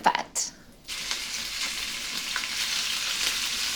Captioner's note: sizzling